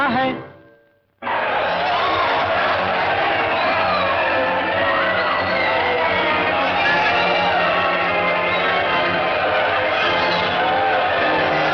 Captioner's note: commotion